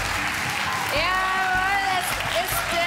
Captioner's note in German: Applaus